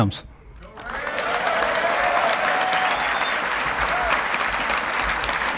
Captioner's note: audience clapping and cheering